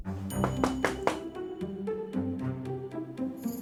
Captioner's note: bell dinging